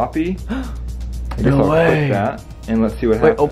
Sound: gasps

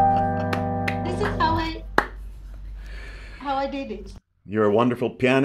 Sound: claps

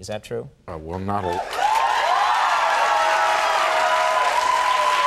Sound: cheering

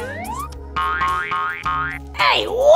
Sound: spring bouncing

